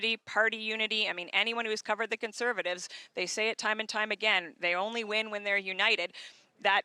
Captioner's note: speaking french